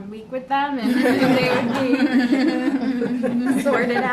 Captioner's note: laughter